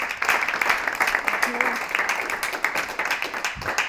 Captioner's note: applause